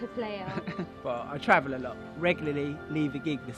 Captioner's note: laughs